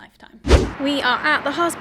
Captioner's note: whooshing sound